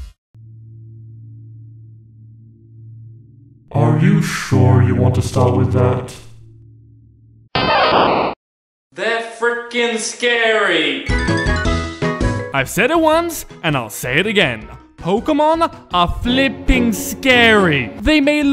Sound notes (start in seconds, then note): 7.6 Pikachu Cry